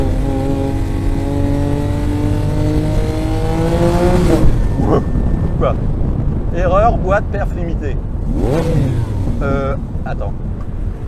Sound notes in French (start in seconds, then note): 0.2 Vrombissement du moteur; 8.2 Coup de gaz